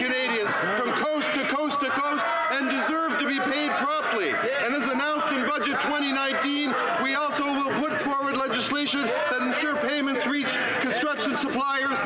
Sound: some Applause

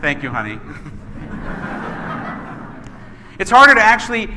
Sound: laughing

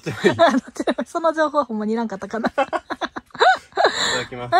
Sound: laughs; laughs

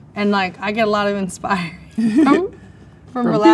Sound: laughs

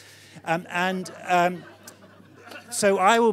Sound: audience laughing

